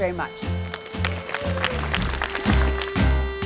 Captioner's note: applause